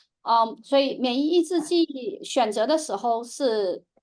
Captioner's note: speaking chinese